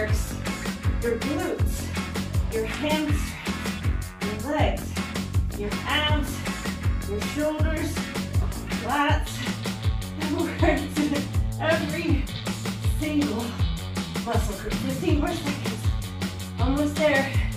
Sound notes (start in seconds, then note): 10.3 chuckling